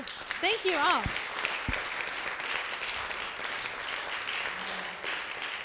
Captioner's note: applause